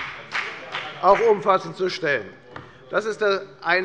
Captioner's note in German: Beifall bei der FDP